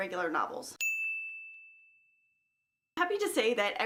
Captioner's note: ding